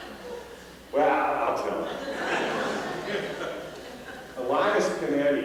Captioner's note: laughter